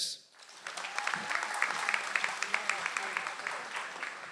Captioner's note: audience applauds